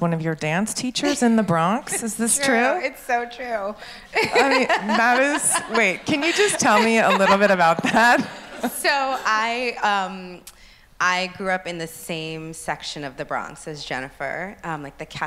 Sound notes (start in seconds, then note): 4.1 laughs